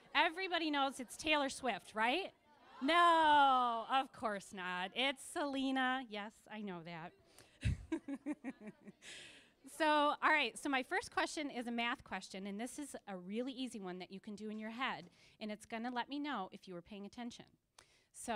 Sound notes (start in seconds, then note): 7.6 laughing